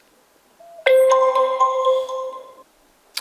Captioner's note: notification sound